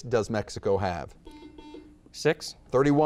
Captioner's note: buzzer beeps